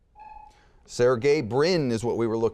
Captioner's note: buzzer beeping